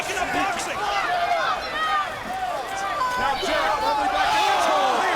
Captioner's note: crowd shouting